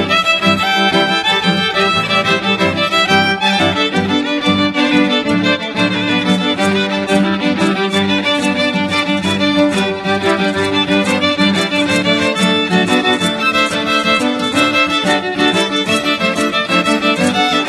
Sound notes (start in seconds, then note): none